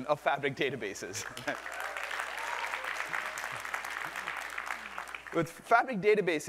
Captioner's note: applause